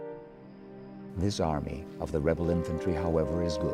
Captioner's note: voiceover